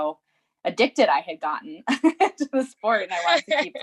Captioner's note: laughs lightly